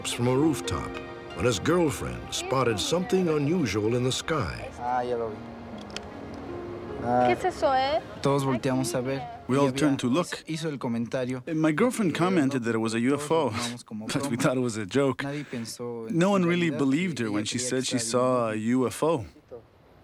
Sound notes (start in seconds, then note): 6.9 speaking spanish